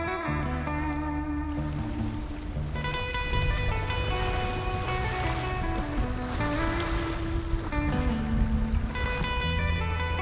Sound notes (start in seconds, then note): 5.1 waves splashing